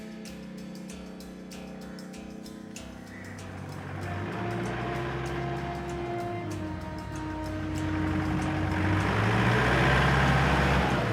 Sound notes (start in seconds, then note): 3.4 car engine rumbling